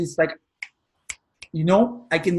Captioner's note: fingers snapping